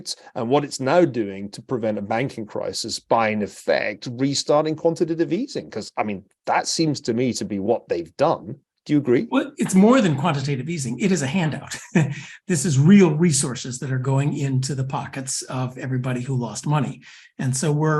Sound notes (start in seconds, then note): 11.7 laugh